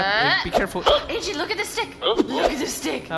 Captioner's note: speaking in an excited tone, the way one might speak to a dog